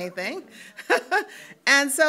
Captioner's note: laughs